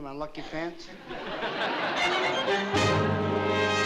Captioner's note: laughter